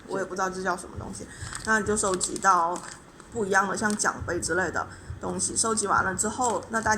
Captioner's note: explaining in Chinese